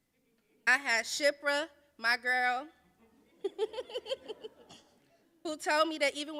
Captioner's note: laughs